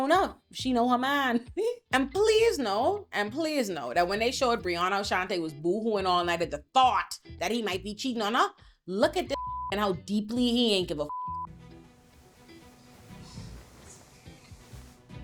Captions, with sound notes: up, she know her mind. And please know, and please know that when they showed Brianna and Chante was booing all night at the thought that he might be cheating on her, look at this (beep) and how deeply he ain't give a (beep) (dramatic music)